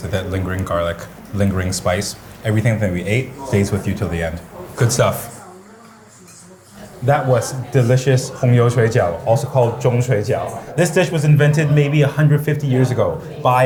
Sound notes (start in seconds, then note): 8.1 foreign language